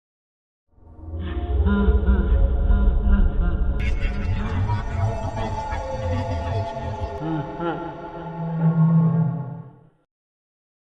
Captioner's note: Creepy ambiance, Freddy laughing, garbled speech